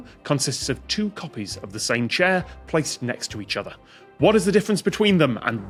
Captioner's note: none